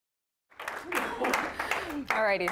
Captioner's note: applause